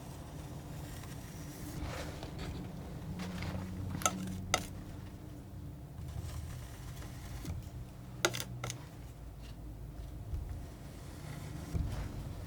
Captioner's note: tapping